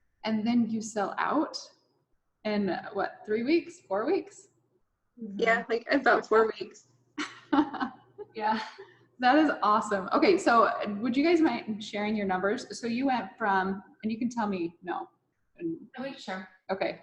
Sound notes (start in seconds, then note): 8.9 laughing